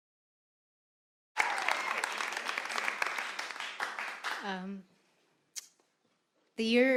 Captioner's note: audience cheering; audience applauding